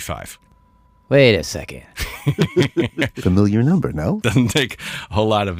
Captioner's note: laughs